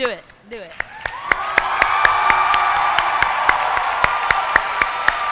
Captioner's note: applause